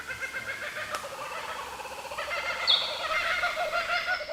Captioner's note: kookaburras calling